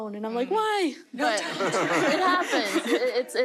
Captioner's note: audience laughter